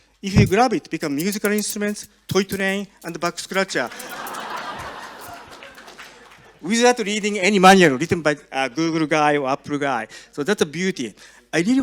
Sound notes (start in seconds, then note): 3.7 audience laughs